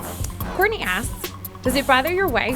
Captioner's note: voiceover